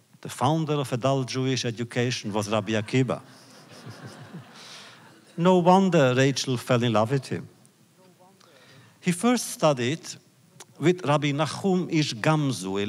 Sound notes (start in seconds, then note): 2.2 laughter